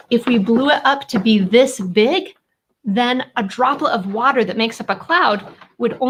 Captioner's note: none